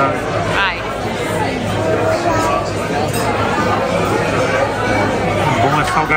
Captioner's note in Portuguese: ambiência de restaurante